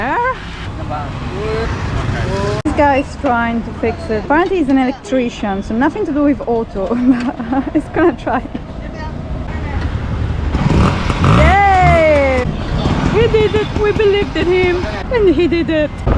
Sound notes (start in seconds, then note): 0.0 laughing; 6.9 laughing; 10.6 engine starts